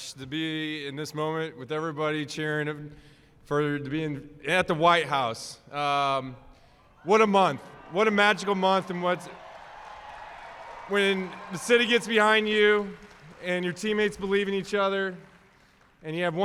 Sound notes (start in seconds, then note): 7.9 applause